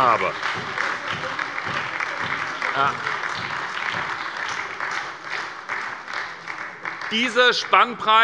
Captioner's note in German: Beifall bei der SPD - Zurufe von der CDU